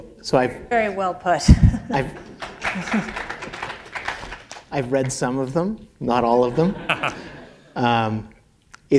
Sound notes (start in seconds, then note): 2.0 applause; 6.5 laughter